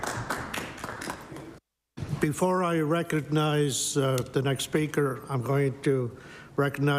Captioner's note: applause